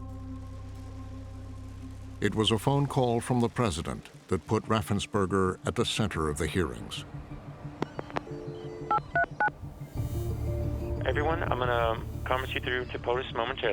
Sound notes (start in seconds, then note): 7.0 dial tone, phone dialing out